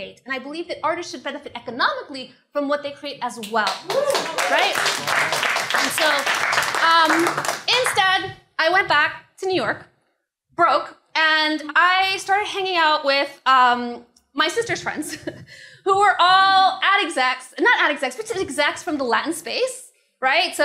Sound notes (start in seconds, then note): 3.6 applause